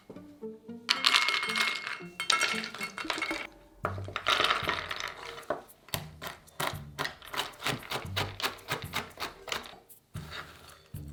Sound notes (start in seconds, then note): 0.9 nuts dropping; 5.9 chopping